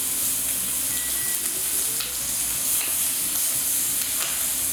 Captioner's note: beeping